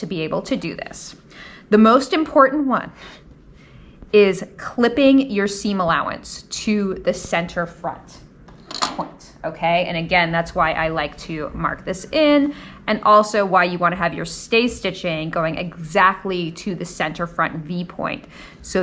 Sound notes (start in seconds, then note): none